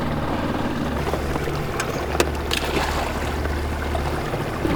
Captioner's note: water splashing